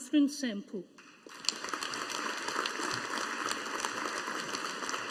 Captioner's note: audience applauding